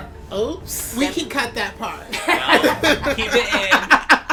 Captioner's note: laughter